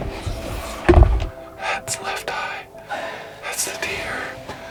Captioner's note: whispering